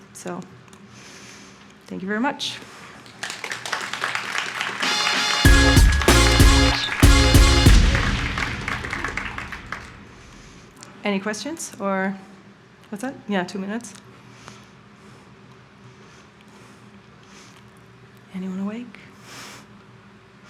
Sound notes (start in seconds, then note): 3.0 audience applauding; 4.8 bright upbeat music